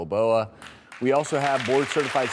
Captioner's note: audience clapping